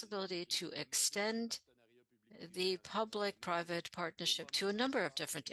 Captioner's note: speaking French